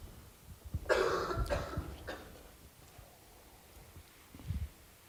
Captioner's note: woman coughing